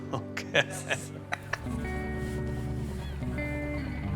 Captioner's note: laughing